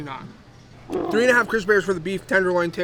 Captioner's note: bear roaring